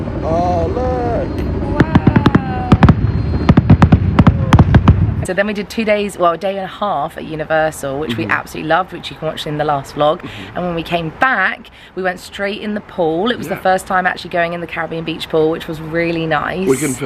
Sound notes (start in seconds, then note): 0.6 fireworks booming